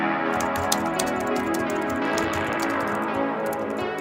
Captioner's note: keyboard clicking